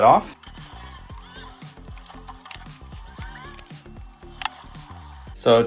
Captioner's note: screws grinding